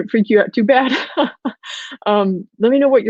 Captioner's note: laughs